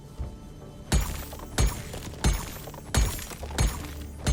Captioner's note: pick ax clanging